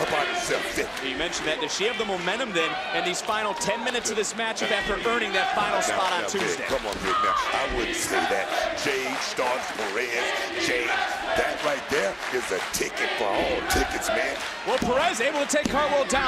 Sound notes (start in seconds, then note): 14.2 crowd chants, "indi hartwell"